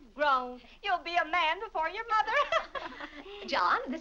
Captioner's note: laughs